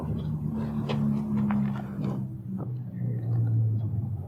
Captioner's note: car passing